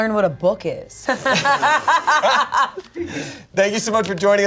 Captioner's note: everyone laughing